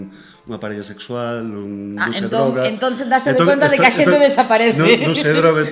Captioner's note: laughs